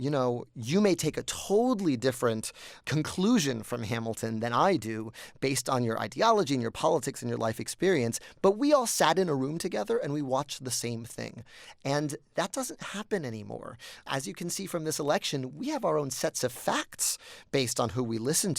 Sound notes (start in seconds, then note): none